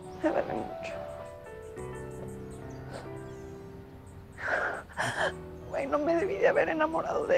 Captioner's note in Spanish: Solloza